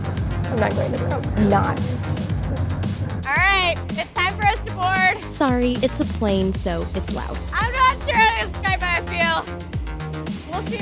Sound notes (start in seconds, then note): none